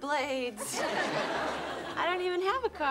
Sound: audience laughing

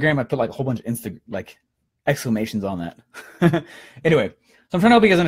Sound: laughing

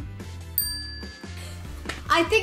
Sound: bell rings

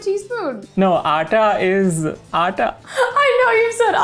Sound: speaking in Hindi

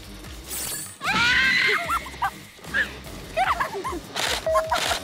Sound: scream

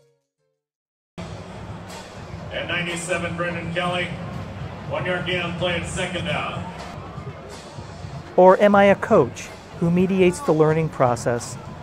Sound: football announcer, crowd noise

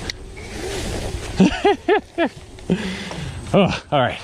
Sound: laughs

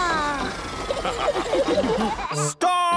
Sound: all laughing

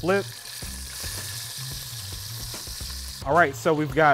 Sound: oil sizzling

